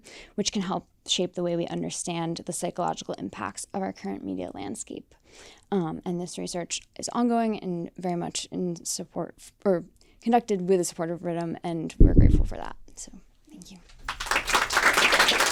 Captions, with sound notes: which can help shape the way we understand the psychological impacts of our current media landscape. And this research is ongoing and very much in support or conducted with the support of RITM, and we're grateful for that. So thank you. [Applause].